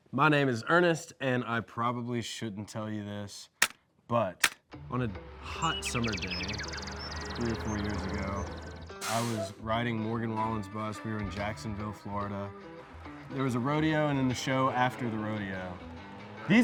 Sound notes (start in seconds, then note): 4.4 object clicking; 5.9 birds chirping